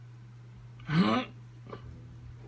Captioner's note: grunt